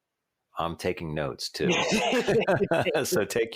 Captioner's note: both laugh